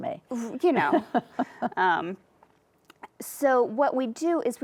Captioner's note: laughs